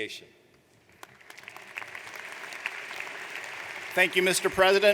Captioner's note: audience applauds